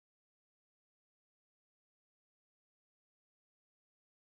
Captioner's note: none